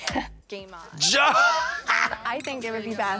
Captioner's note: Katya chuckles